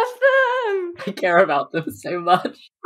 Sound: laughing

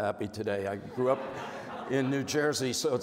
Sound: crowd laughing

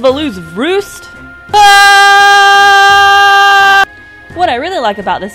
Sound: screaming

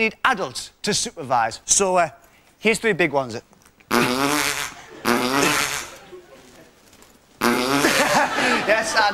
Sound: Ant farts 3 times; laughs

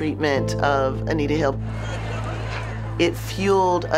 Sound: crowd chattering

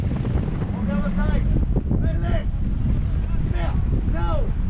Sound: people shouting

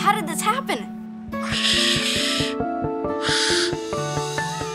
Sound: hissing

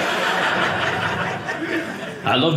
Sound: audience laughing

